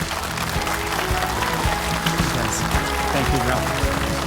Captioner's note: audience applauding; bright music